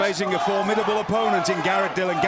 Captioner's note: fans chanting